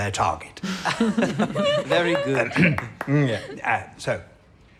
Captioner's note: laughter and applause